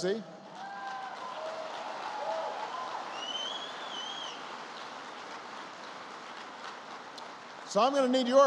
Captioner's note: applause